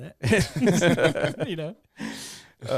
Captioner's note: laughs